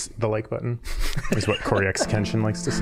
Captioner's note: laughing